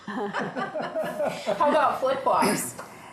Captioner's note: everyone laughs